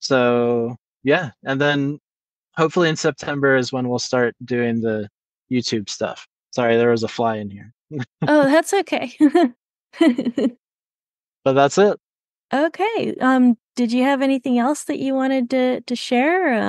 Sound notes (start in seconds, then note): 7.9 chuckles; 7.9 laughs